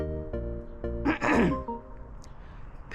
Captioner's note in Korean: 목 가다듬기